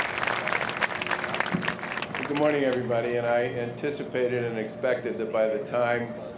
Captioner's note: applause